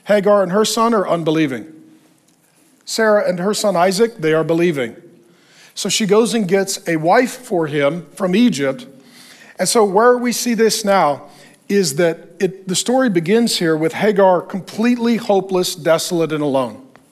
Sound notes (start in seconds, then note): none